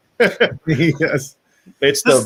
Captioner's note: laughing